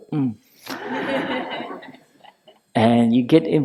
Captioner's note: laughter